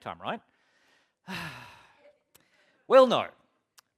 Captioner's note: sighs